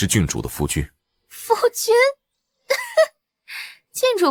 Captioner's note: laughs derisively